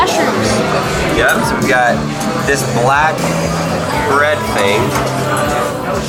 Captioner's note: laughs